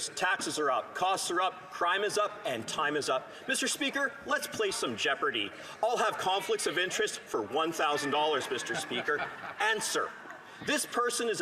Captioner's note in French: voix de l'interprète